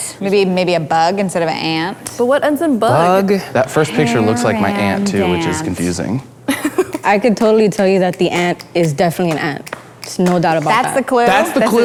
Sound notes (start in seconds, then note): 6.5 laughing